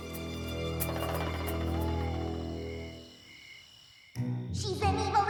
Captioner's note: insects chirping